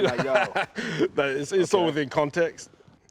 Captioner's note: laughs